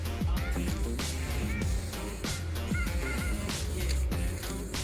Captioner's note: spray paint can rattling; spray paint can hissing